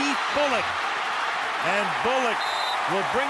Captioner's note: cheering